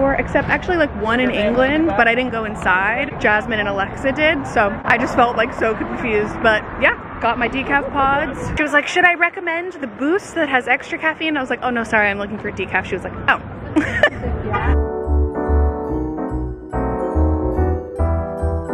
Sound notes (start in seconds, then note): 13.7 laughing; 14.6 festive music